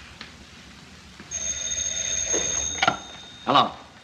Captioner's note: phone rings